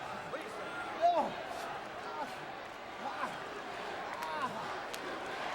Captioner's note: Jericho grunting